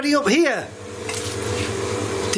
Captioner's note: none